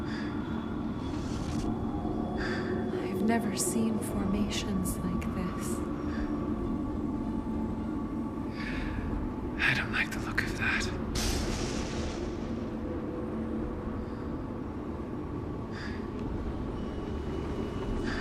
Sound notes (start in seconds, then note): 11.8 atmospheric noise intensifying